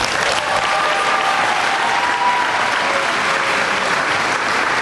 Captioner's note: applause